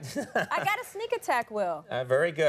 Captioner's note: Conan chuckling